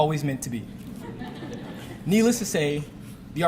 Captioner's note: audience laughing